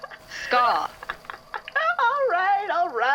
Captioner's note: static crackling; laughing